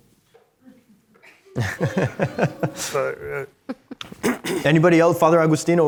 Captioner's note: scattered laughter